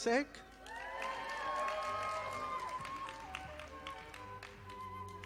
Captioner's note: audience applauding